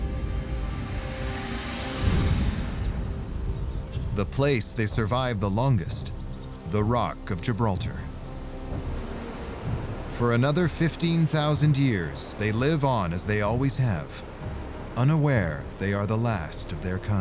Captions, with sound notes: [suspenseful music] The place they survive the longest: the rock of Gibraltar. [birds chirping] For another 15,000 years, they live on as they always have, unaware they are the last of their kind.